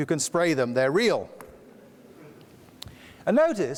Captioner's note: audience laughs lightly